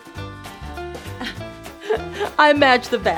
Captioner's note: laughs